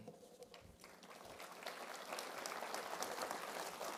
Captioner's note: applause